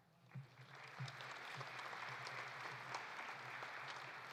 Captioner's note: audience applauding